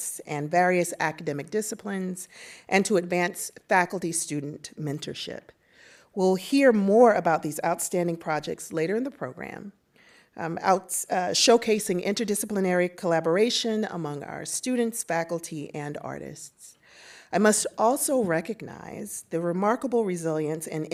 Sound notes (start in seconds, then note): none